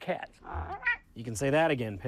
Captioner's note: Pickles meows